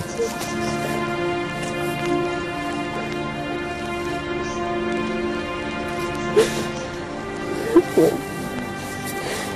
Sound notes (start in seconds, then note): 0.0 sobs; 5.9 sniffles